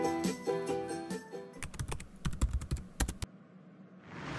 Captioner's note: cheery music fades; typing; dramatic music starts